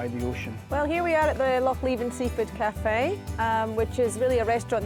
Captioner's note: with Scottish accent